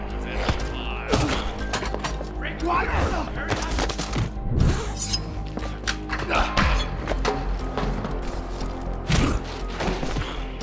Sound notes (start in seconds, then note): 1.0 indistinct fighting sounds; 2.3 grunting and groaning; 4.9 knife unsheathing